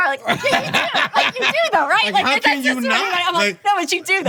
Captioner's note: laughing